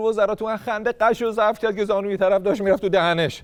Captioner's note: laughter